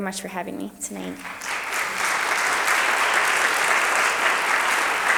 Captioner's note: audience applauds